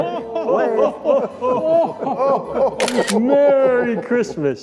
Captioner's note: laughing together